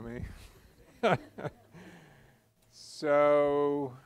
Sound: laughter

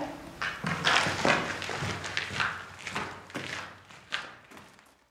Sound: footsteps

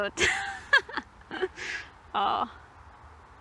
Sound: laughs

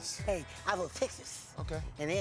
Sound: lisp

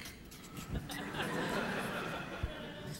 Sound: laughter

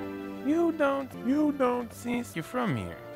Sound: pitched down

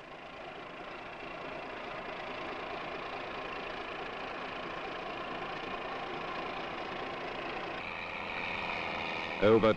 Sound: sound of machinery

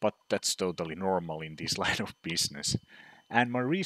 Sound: chuckles

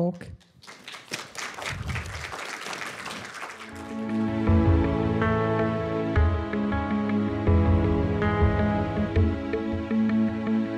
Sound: applause

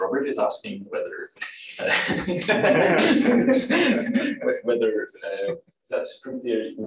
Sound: laughter

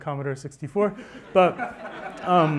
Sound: laughter

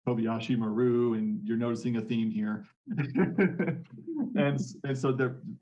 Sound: laughing

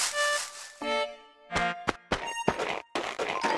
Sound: footsteps

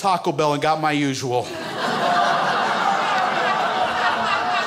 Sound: crowd laughs

